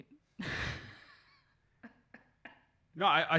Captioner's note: laughs